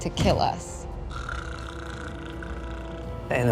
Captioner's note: snoring